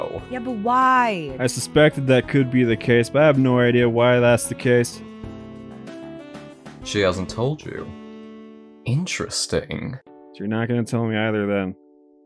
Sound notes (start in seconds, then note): none